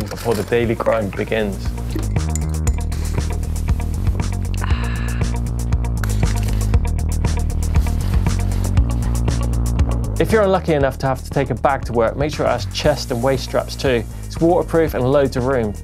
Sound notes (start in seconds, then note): 1.9 spoon clinking; 5.5 electronic dance music